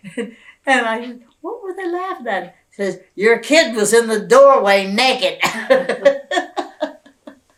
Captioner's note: laughter